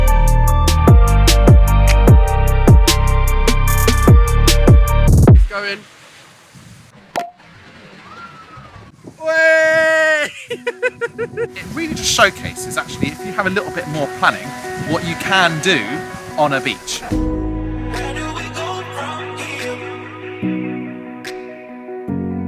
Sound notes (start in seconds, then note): 7.1 bottle pops; 9.8 laughs